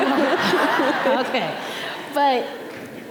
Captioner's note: audience laughing